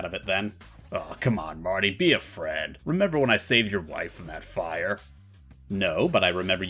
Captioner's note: tough guy voice